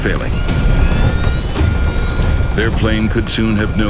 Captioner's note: plane engine rattles